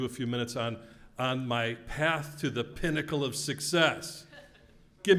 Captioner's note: laugh